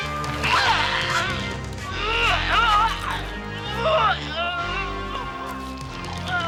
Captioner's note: Fu grunting; dramatic music